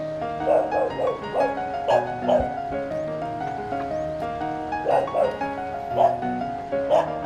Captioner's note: dog barking as if calling someone